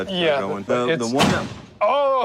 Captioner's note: thud